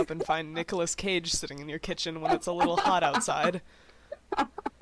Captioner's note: laughter